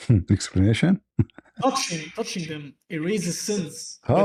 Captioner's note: laughter